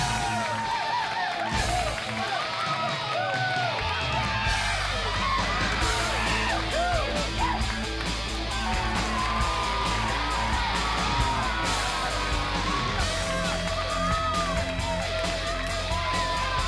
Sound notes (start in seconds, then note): 5.1 crowd cheering